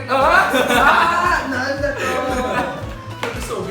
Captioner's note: laughing